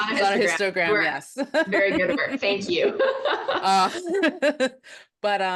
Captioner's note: both laugh